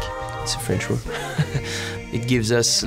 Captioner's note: laughs